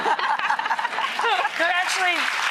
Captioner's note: laughing; clapping